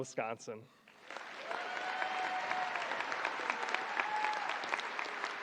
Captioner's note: audience applauding